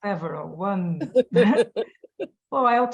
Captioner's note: laughing